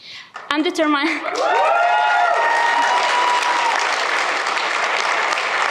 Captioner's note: cheers, applause